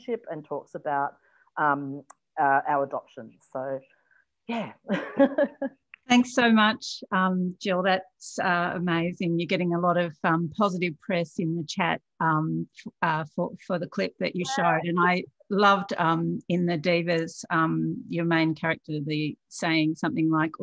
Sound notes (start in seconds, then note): 4.8 chuckles